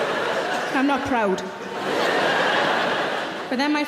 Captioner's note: audience laughs